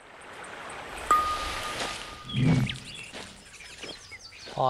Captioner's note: water babbles